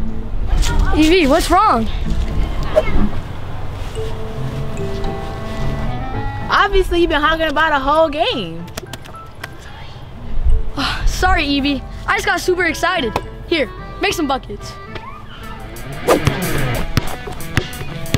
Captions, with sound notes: E.B., what's wrong? Obviously you been hogging the ball the whole game. (Sigh) Sorry E.B., I just got super excited. Here. Make some buckets. (Rock music)